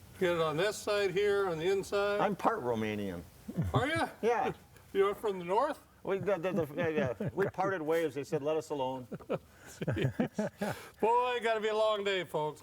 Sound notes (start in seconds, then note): 9.6 chuckles